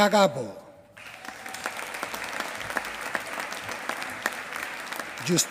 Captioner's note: applause